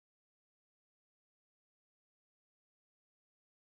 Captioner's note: none